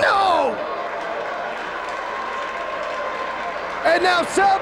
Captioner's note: spectators applauding